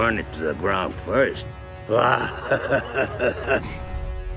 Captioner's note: laughing